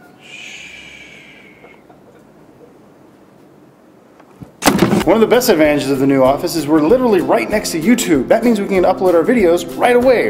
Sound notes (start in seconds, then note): 4.4 clatter